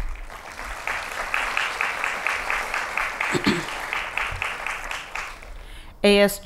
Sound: applause

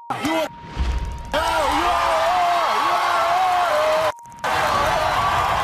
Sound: audience cheers

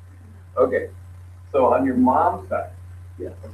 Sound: laughs

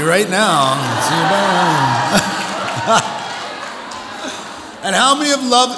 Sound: audience applauds

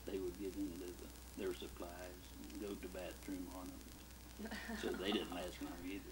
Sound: laughs

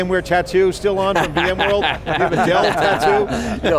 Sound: laughter

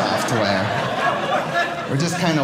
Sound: audience laughing

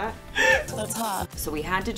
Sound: laughs

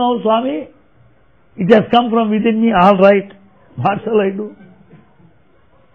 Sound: laughter

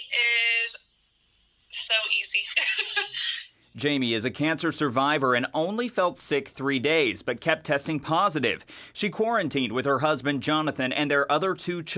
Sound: laughter

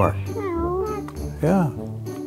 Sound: baby mumbles

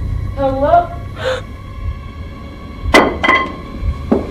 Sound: gasps

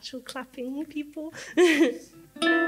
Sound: laughs

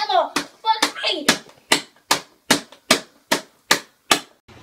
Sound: continuous beating sound

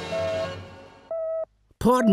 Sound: beeping

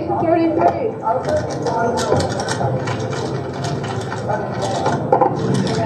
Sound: chatter

